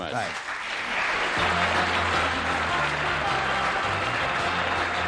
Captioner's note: applause; theme music